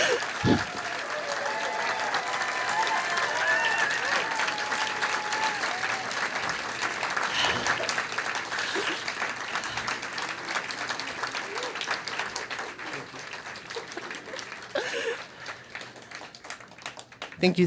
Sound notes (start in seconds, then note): 0.6 audience applause